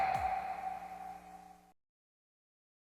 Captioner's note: logo popping